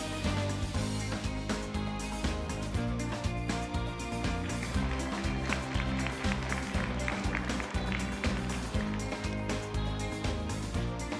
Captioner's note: applause